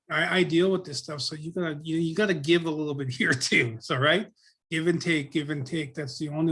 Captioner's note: laughs